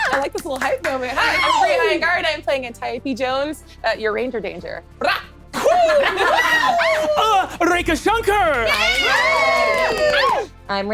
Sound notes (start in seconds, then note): 5.6 group cheering